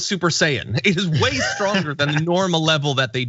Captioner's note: laugh